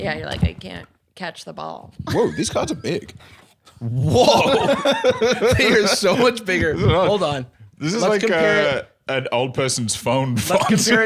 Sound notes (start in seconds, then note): 4.1 laughing